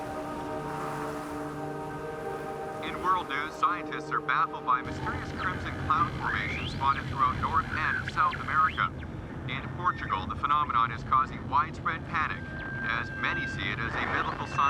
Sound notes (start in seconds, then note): 0.3 wind whooshing; 2.6 man on radio